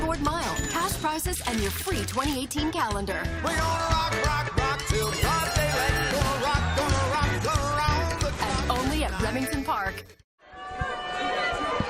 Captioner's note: applause